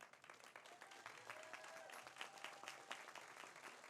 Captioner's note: audience applauds